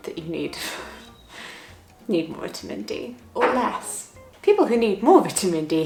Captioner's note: chuckling